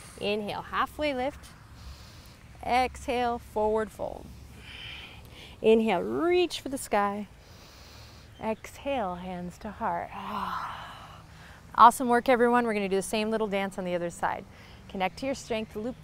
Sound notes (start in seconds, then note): 7.4 inhales deeply; 10.3 exhales